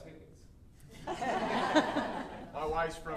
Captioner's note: audience laughing